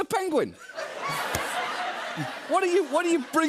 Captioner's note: laughter